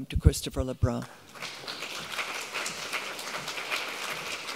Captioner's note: audience applauding